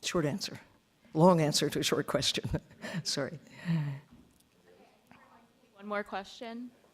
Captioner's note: laughs